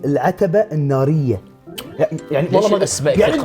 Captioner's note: tsks